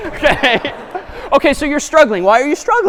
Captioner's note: laughter